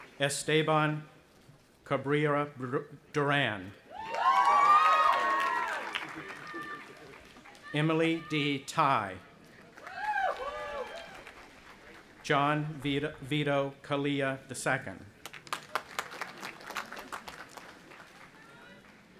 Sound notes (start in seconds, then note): 0.0 audience applauding and cheering; 4.0 audience applauding and cheering; 9.6 audience applauding and cheering; 15.2 audience applauding